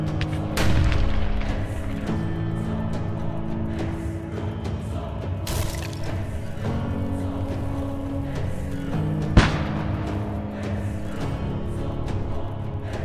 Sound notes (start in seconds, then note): 0.2 guns firing; 2.0 sings in foreign language; 3.6 upbeat music; 9.4 gun firing; 11.1 upbeat music